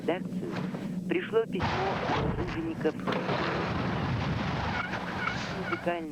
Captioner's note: snow crunch